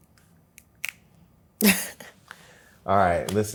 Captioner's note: laughs